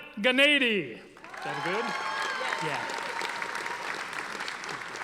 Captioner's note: audience applauding